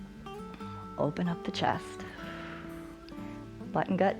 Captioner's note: exhales